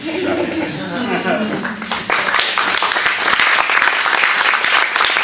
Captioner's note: applause